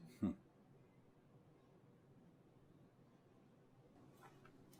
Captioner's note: Alan chuckles